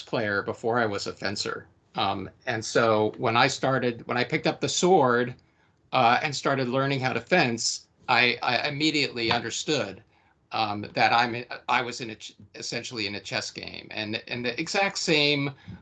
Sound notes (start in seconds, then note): none